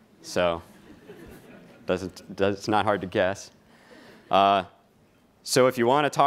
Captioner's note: laughing